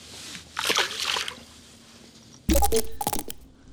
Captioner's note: water splash